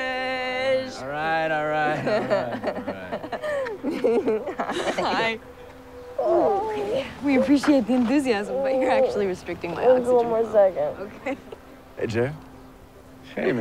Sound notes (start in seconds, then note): 1.8 Taylor laughing